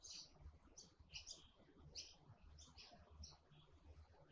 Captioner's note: birds chirping